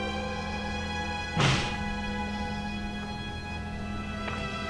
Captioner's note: door bangs